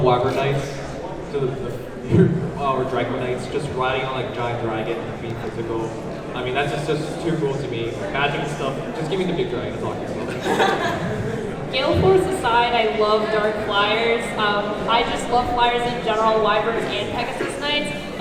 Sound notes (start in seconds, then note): 10.2 laughs